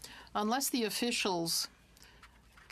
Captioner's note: speaking french